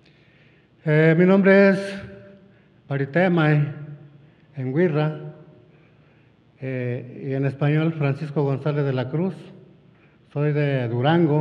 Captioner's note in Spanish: habla en wixárika